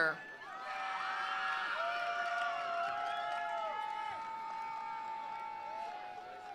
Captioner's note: attendees cheering; attendees applauding